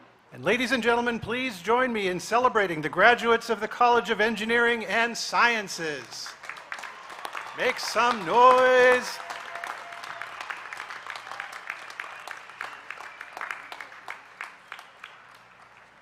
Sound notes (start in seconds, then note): 12.3 applause